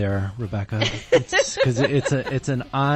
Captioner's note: laughs